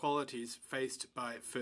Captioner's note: speaking in french